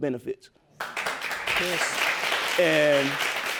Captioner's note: audience applauding